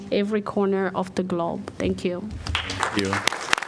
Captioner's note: applause